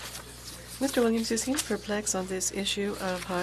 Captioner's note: speaking French